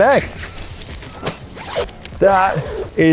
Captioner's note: zipping screech